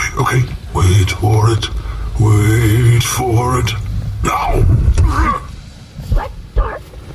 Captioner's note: stomps